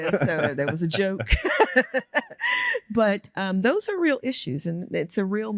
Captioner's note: laughs